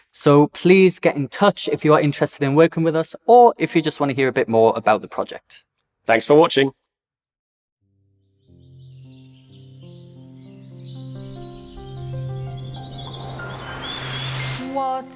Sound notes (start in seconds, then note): 8.4 birds chirping; 11.1 gentle music